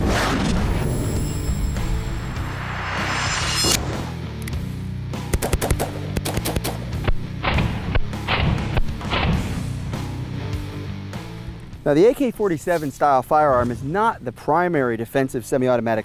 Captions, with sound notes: (heavy guitar music) (gun shots) - Now the AK-47 style firearm is not the primary defensive semi-automatic